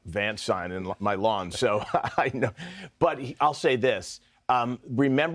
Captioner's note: laughter